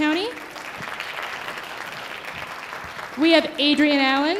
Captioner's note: audience applauding